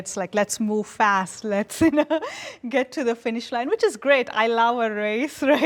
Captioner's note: laughs